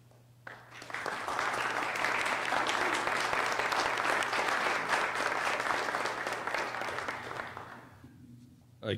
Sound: applause

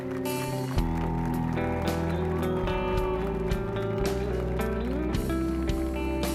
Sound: applause and cheers

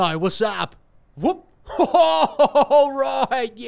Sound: laughing

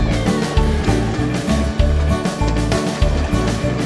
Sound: vehicle sound: train passing

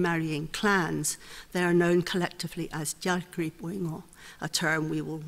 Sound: speaks foreign language

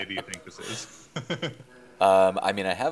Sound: chuckling

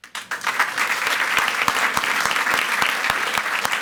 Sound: audience applauds

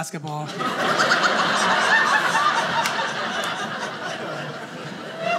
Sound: audience laughing

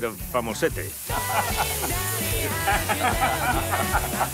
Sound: laugh

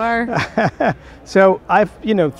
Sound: laughs

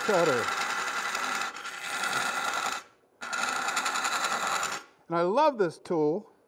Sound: wood lathe chattering

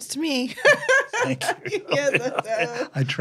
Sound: laughs

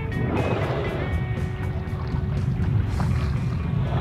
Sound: upbeat music; whales blowing

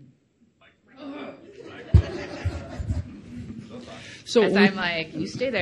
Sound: laughing

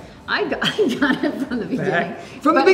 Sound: laughs

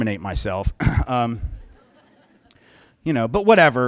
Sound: soft laughter

